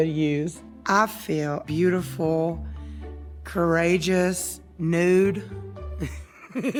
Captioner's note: laughs